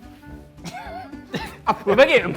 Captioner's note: laughing